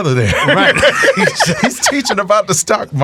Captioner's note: all laughing